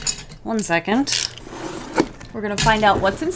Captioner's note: cuts box